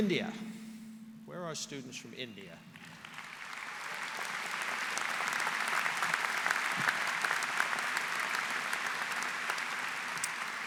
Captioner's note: applause